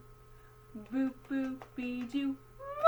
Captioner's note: tapping legs